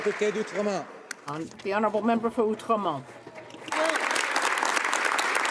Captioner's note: some Applause